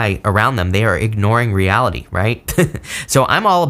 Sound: laughs

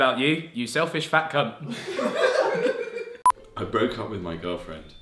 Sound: laughing

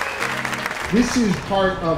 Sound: people cheering

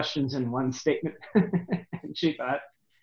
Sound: laughing

